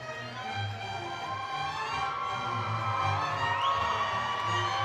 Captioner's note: audience cheering